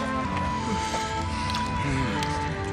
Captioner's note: soldier sighs; soldiers chattering